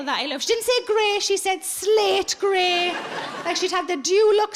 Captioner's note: audience laughing